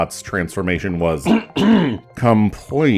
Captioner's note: snarky ahem